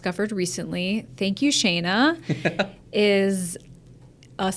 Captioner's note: laughs